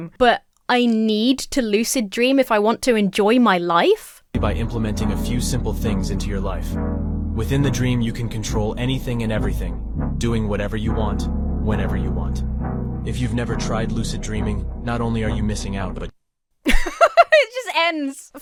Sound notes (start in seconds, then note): 16.6 laughs